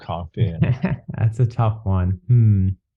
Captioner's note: laughs